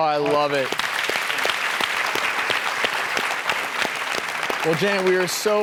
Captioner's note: audience clapping